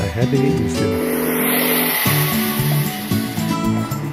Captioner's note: woosh